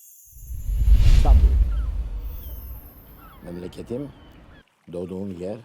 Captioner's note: man speaking Greek; seagulls squawking